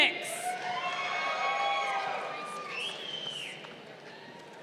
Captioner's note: crowd cheering